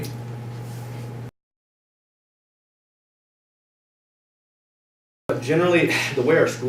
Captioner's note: silence